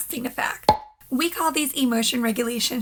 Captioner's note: pop